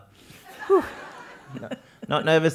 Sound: laugh

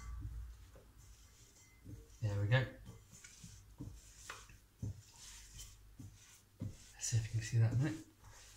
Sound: rolling dough

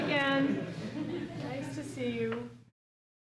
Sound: audience chuckles

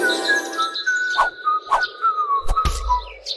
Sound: fool whistles

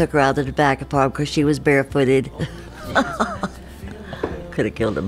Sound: laughs

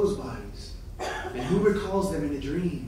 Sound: coughing

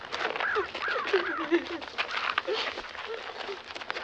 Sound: bird squawking

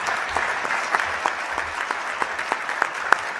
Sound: applause

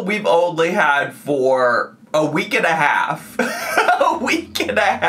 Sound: laughs

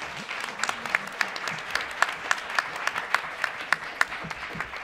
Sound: applause

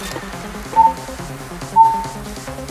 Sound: beep beep

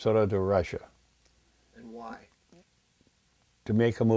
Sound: voiceover

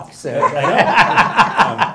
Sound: laughter

